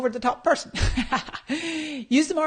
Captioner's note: laughs